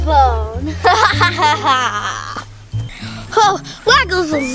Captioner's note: laughs